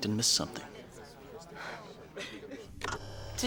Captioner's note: sighs